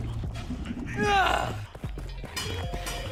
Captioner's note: sigh